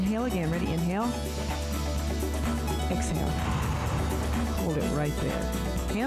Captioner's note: breath hisses